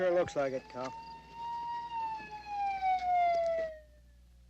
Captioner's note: siren ringing